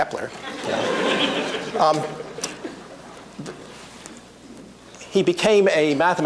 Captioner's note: laughter